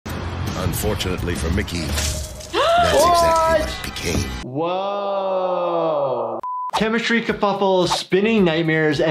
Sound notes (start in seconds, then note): 2.0 wet squelching; 2.5 gasps